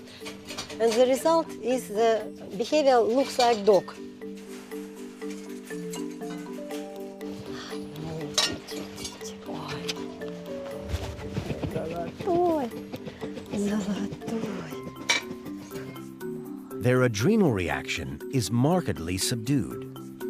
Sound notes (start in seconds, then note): 7.3 talking softly